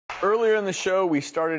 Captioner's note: audience applauding